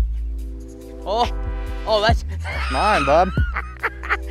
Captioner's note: laughs